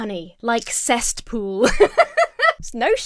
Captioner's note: laughs